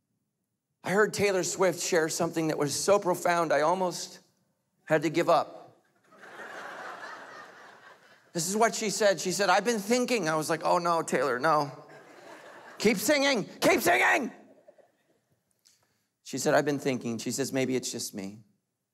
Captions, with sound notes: I heard Taylor Swift share something that was so profound, I almost had to give up. This is what she said. She said, I've been thinking. I was like, oh no, Taylor, no. (laughing) Keep singing, keep singing! She said, I've been thinking. She says, maybe it's just me,